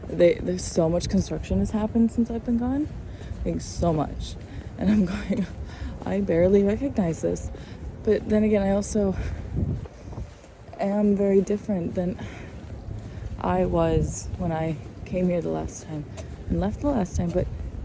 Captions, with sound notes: They—There's—So much construction has happened since I've been gone. Like, so much. *chuckles* And I'm going, 'I barely recognize this.' But then, again, I also... *wind gusts* am very different than *sighs* I was when I came here the last time, and left the last time, but...